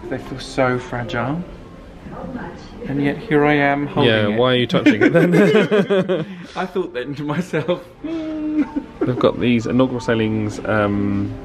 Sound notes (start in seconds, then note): 4.8 laughs